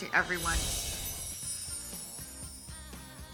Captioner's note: soft chimes